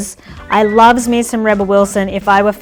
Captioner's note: lips whistle